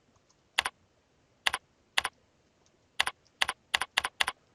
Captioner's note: mouse clicking